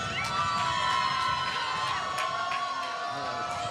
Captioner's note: applause